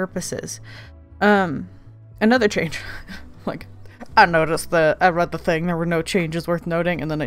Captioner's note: laughs